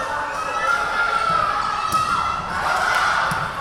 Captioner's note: yelling